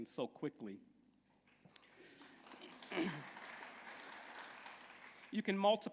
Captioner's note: applause